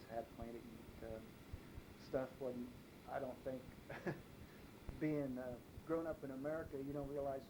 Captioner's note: chuckles